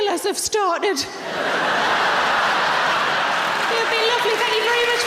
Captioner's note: audience laughing